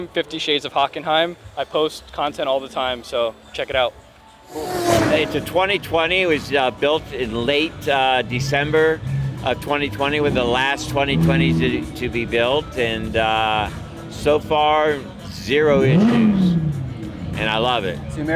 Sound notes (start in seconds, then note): 4.4 car revs; 15.4 car revs